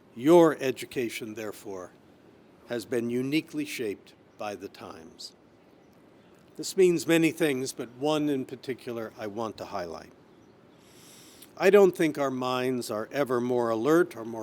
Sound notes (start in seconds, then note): none